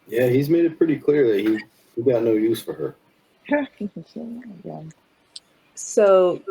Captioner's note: quietly